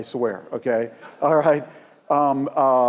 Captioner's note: laugh